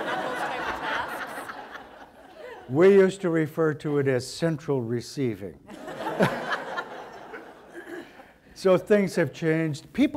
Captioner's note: audience laughter